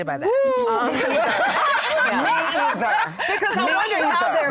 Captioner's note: laughter